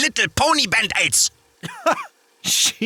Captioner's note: laughs in bald eagle